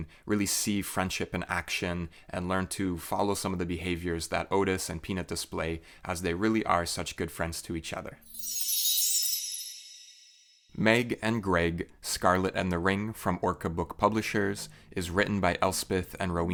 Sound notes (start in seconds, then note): 8.2 chime